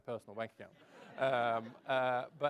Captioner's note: laughs